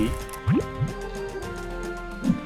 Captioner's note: sfx: blob transforms